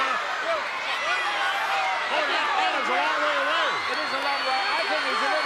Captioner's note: applause